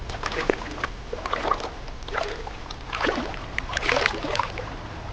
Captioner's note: water splashing